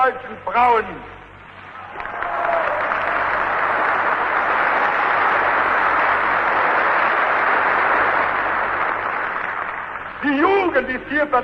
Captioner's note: applause